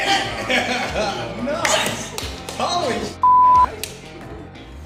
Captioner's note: laughs; beep